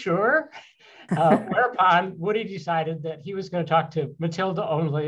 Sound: laughter

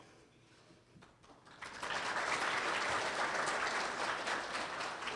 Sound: audience applauds

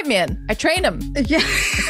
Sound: laughs

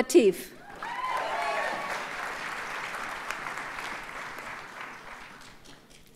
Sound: audience cheers and applauds

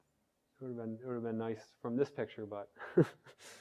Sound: laugh

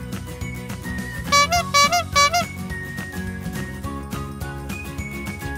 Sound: bicycle honking

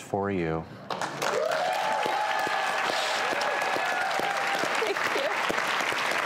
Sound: applauding; cheering

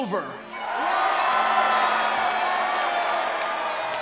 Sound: cheering

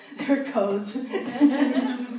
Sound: laughter

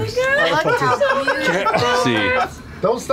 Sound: laughter

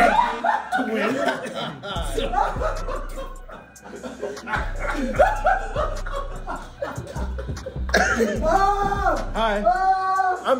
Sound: laugh

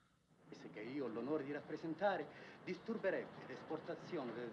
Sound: man Speaking Italian

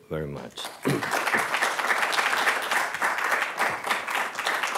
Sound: audience applauding

